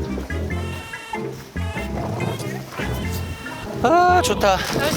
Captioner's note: humming along with the cool breeze